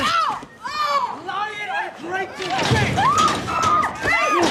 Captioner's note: Adrian, shouting